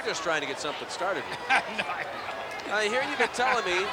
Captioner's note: laughs